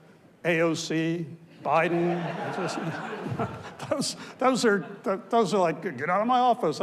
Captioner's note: audience laughs